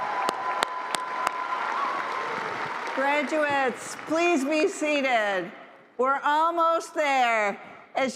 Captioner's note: cheers and applause